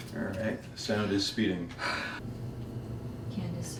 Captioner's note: suspira